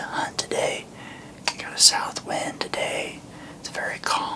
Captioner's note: whispering